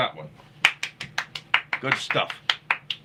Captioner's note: clapping